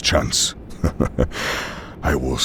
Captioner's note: Heavy Guy chuckles and inhales